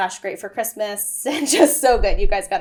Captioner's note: laughs